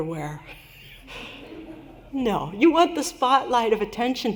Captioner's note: laughter